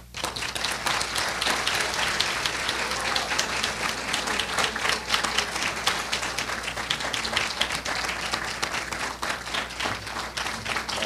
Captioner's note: applause